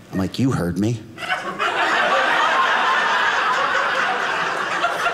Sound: audience laughing

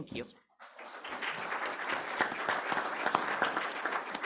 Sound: applause

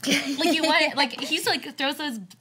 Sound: laughs

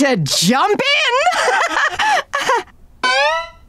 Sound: laughing

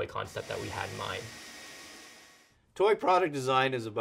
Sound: drills whirring

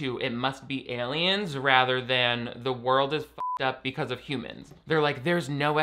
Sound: beep

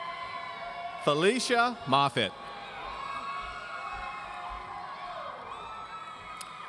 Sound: audience cheering

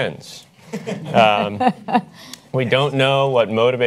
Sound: panelists chuckle

